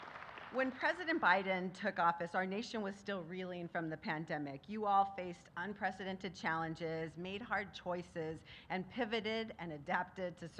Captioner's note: applause